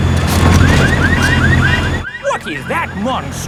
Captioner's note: car alarms blaring